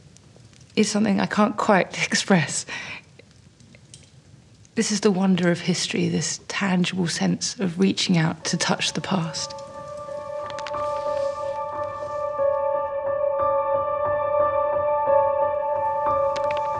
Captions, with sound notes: is something I can't quite express. This is the wonder of history, this tangible sense of reaching out to touch the past. (soft poignant music) (page rustles)